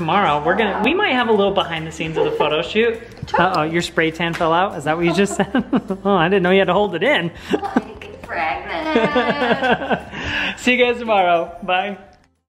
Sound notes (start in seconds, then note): 8.6 laughs